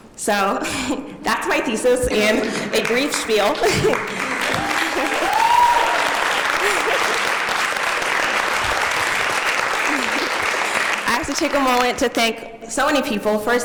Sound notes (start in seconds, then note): 4.2 applause